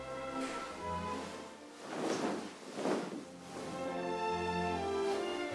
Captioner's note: fabric rustling